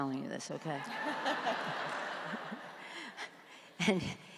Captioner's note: audience laughs; laughs